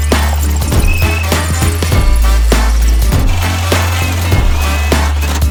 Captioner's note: drill whirring; upbeat music